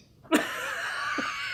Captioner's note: laughs